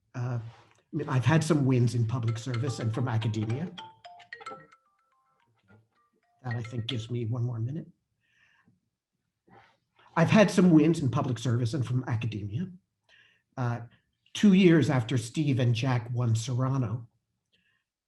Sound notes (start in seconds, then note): 2.2 phone ringing